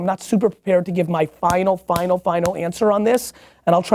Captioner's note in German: Hände Stampfen